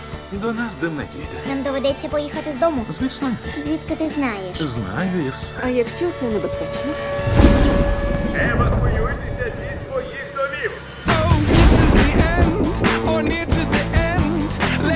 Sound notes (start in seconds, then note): 5.8 siren sounding; 8.2 man over loudspeaker; 11.0 thunder crashes